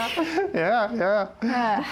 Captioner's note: laughs